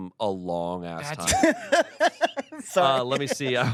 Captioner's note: laughs